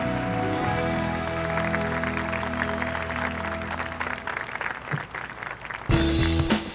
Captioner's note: gentle music; audience applauding; dramatic music